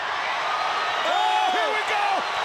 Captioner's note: audience cheering